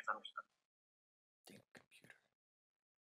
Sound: Robbie muttering

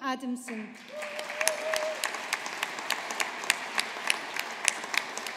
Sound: audience applauding

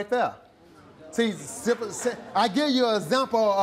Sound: audience murmurs

